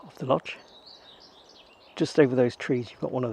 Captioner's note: birds chirping